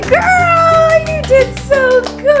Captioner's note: applauding